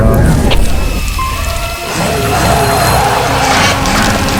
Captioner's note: the sounds of extinct animals